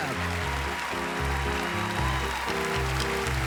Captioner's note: applause